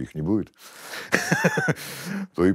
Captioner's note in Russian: смеется